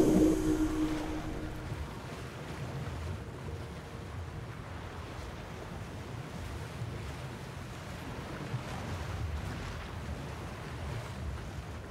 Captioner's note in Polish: sea ambient